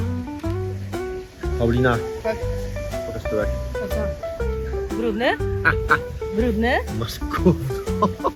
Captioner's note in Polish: Śmiech